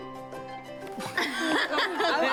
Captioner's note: sound of laughter